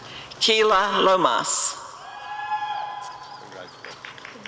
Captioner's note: applause and cheering